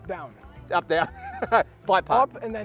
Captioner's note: laughs